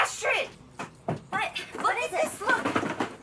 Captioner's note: running steps